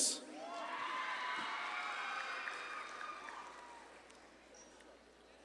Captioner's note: audience claps and cheers